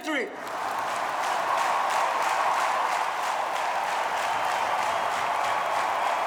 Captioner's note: audience clapping and cheering